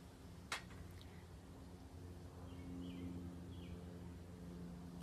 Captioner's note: airplane whirring